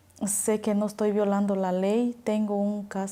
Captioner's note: speaking spanish